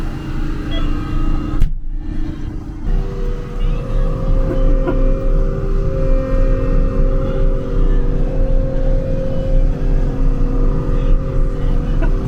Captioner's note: engine roaring; speaking in foreign language